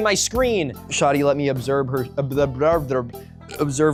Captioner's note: burp